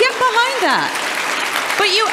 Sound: audience applause

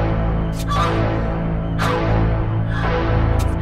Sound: stabbing; screaming Continues

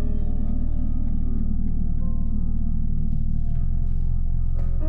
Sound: clock ticking

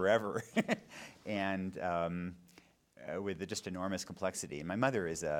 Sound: laughing

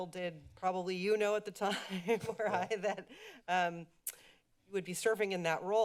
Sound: laughs

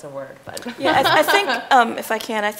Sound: laughing

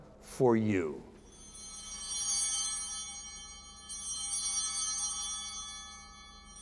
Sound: chimes ringing

